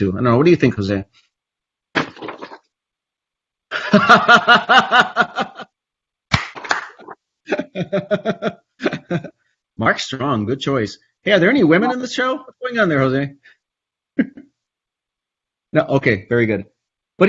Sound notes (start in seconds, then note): 2.0 rustles paper; 3.7 laughs